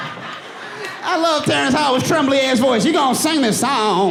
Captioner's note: audience laughing